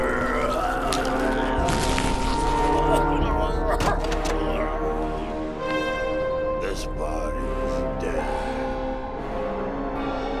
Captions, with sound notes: (gurgling) (dramatic instrumental music) This body's dead.